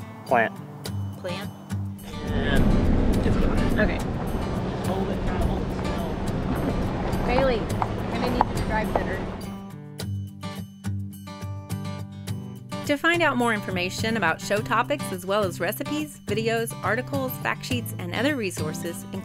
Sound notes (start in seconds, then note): 2.5 traffic noise; 4.8 people chattering